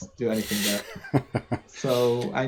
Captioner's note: laughs